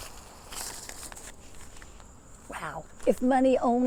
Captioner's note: dollar bills crinkling